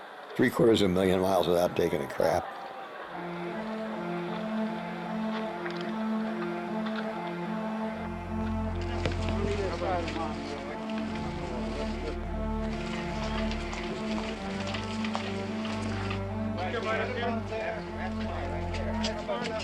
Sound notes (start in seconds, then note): 7.9 people talking in background